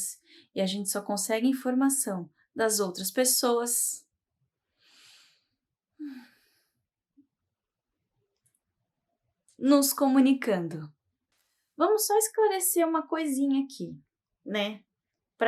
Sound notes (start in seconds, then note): 4.7 taking a deep breath